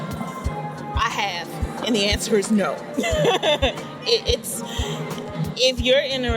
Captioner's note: laughing